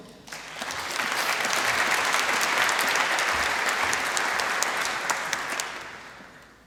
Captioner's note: applause